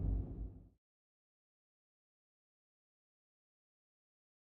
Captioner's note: silence